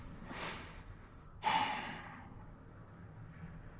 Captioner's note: sigh